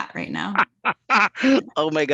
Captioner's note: chuckles